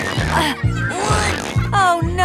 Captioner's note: grunting